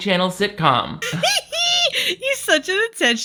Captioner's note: laughs